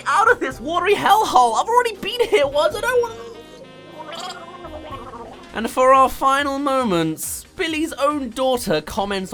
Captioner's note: gargle